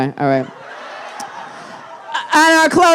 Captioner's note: audience laughing